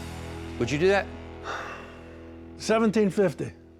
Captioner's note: sighs